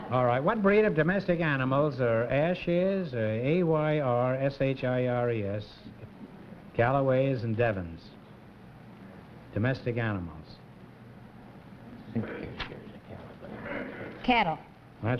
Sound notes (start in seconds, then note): 12.8 whispering